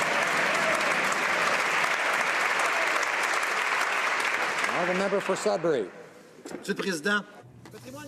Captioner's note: some Applause